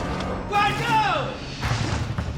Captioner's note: crew member shouting indistinctly